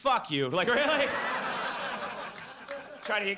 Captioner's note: audience laughs